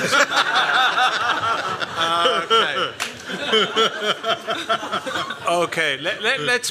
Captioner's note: laughter